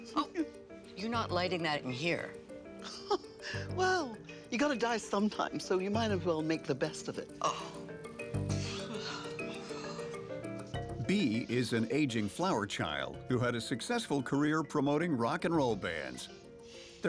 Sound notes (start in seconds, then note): 2.8 laughs; 8.4 Flo sighing